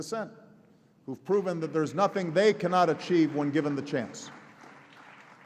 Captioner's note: applause